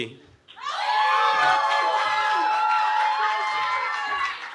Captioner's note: cheering